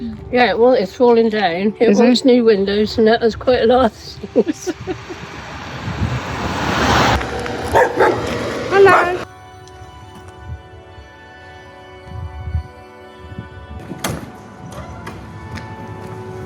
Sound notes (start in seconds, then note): 4.3 laughter; 7.7 dogs barking